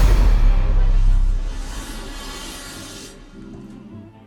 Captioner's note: suspenseful music; machine whirring